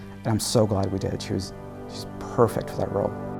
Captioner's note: none